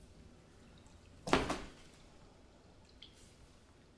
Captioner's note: thudding